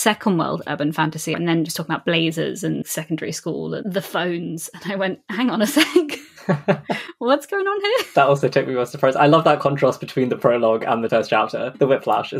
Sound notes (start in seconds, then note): 6.0 laughs